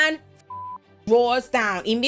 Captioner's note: beep